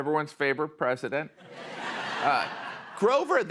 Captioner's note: laughter